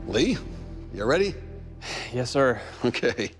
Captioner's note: sighs